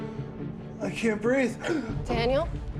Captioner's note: gasps for air